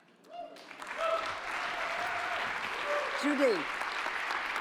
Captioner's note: audience applauding